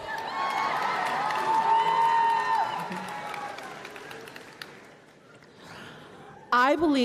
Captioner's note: applause and Cheering